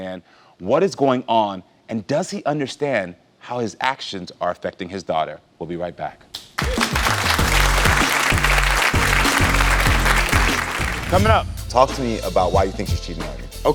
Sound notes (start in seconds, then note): 6.5 audience applauds